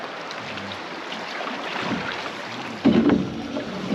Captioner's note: water flowing; creaking